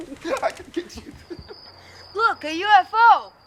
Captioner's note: insects chirping